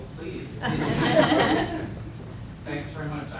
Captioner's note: laughter